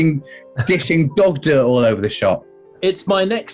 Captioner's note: sniggering